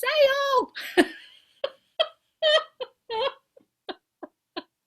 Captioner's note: both laugh